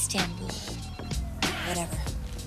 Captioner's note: yelling